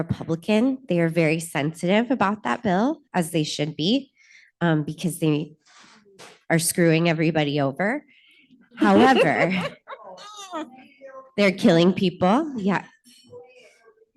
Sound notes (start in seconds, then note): 8.8 laughter